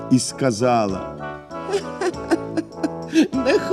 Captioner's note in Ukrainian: сміх